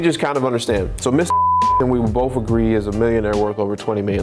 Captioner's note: beep